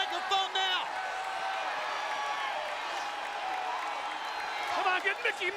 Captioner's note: audience cheering